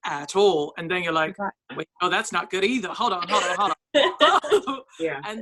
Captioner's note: laughs